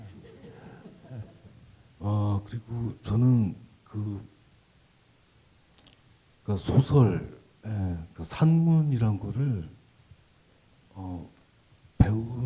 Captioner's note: speaking Korean